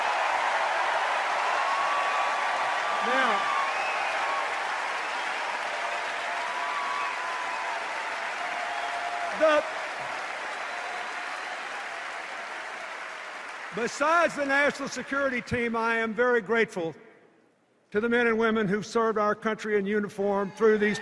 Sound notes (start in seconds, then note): 0.1 cheers and applause; 6.5 cheers and applause grow